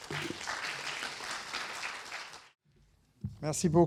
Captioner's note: audience applauding